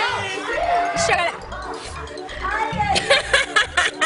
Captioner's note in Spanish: risas